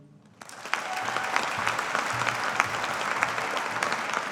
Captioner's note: audience applauding